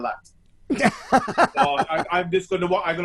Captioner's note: laughs loudly